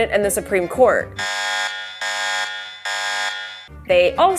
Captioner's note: siren